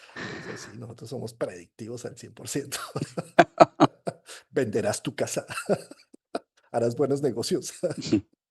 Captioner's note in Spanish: risas